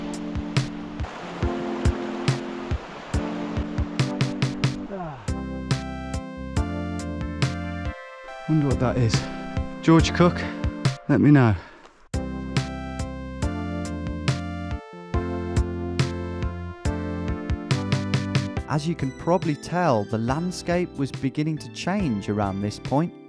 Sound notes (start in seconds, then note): 0.0 rushing water; 4.8 sighs; 18.5 voiceover